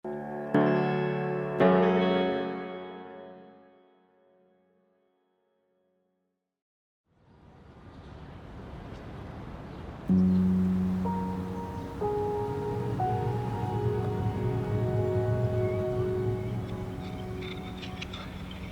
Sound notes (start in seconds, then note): 0.1 tranquil music; 7.7 traffic noises; 10.4 gentle music